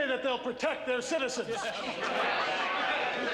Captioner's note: laughter and jeers